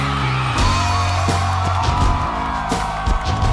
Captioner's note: cheering; light rock music